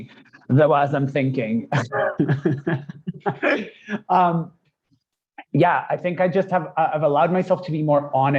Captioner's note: laughs